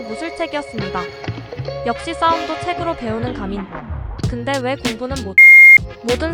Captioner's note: beep!!